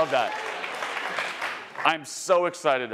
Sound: attendees applauding

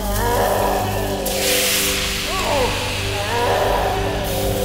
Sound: Crowley howls

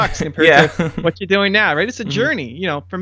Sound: laughter

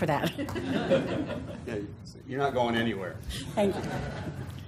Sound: laugh

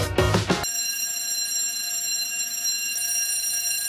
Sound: alarm rings

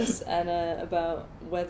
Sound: laughs

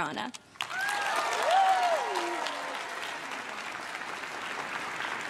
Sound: crowd cheers and claps

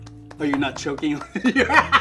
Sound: claps; laughs

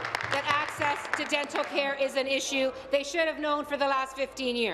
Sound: applause

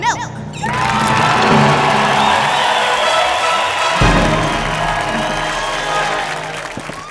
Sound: cheering

